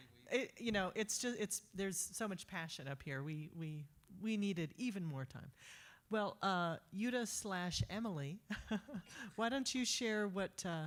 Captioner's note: laughter